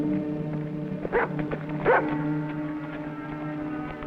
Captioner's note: barking